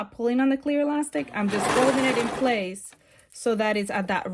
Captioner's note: serger clattering